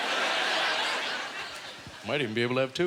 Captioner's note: audience laughter